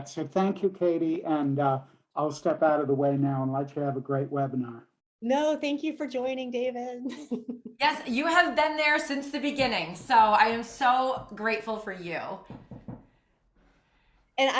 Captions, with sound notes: So thank you, Katie. And I'll step out of the way now, and let you have a great webinar. >> No, thank you for joining, David [laughs]. >> Yes. You have been there since the beginning, so I am so grateful for you.